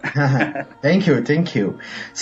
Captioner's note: chuckling